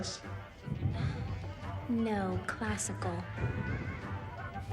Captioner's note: scoffs